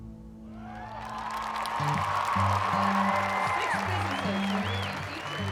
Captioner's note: cheering and applauding